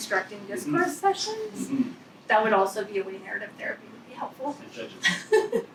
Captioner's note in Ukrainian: сміється